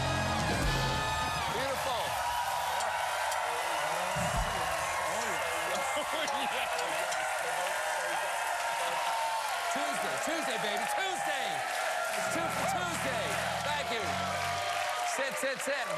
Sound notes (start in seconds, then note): 2.2 cheers and applause